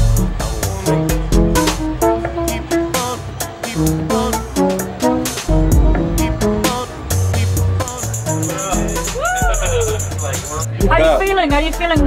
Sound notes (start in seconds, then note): 8.2 quiet chatter